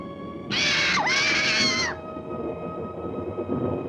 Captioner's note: bird squawking